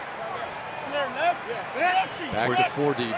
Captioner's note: shouting